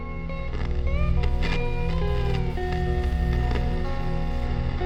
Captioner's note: static over music